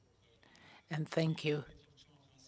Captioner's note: speaking FRENCH